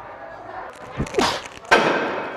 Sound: grunts

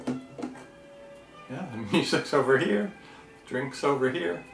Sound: laughs

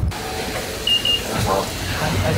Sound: reader beeps

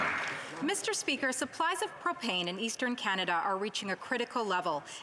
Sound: applause

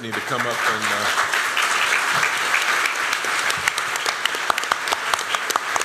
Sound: applause

